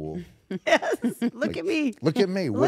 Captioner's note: laugh